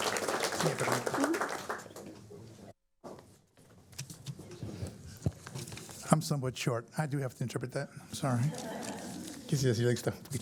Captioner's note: applause